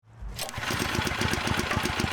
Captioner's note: engine revving